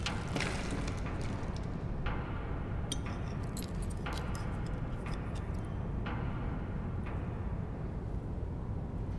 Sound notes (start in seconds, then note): 2.1 cutlery noise on plates